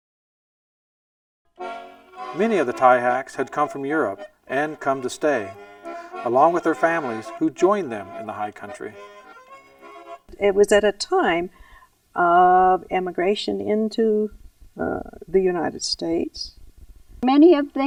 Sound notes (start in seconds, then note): 11.0 voiceover